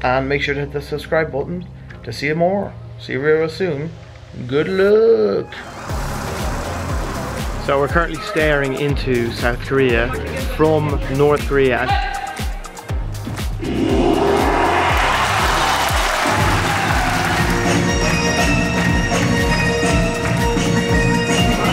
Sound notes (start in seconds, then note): 13.6 audience applauds; 18.9 upbeat music